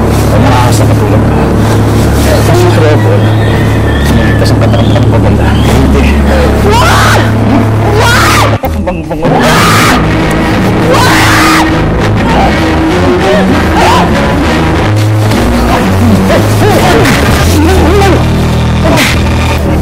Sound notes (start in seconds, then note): 10.8 screams; 10.9 grunt; 12.9 grunting; 18.8 grunting